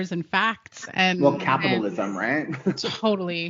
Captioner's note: laughing